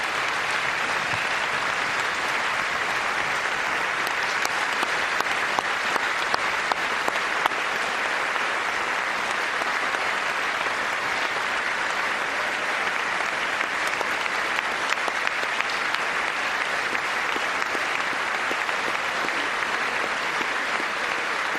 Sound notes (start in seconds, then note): 14.7 applause